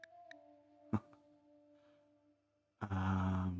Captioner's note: laugh